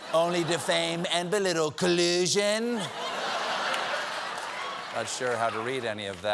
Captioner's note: laughter